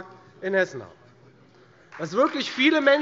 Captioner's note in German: Beifall Freie Demokraten